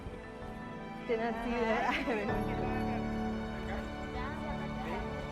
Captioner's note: community members speaking Spanish